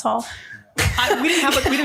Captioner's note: laughing